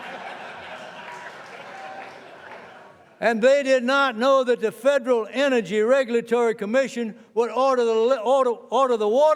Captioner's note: laughter